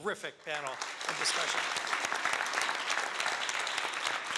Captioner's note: applauding